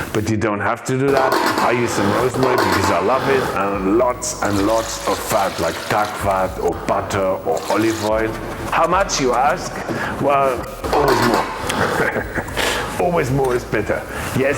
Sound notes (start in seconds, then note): 11.2 laughs; 11.7 pot clanging